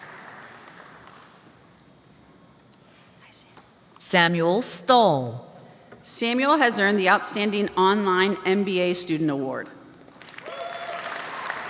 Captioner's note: applause